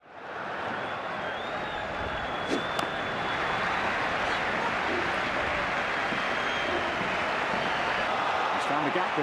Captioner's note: crowd noise